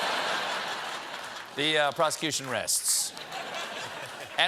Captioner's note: laughter